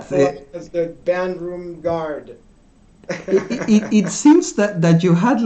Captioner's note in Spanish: Risas